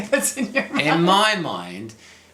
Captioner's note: laughs